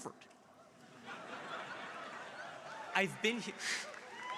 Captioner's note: crowd laughing